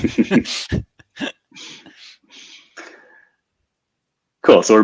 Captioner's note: speakers laughing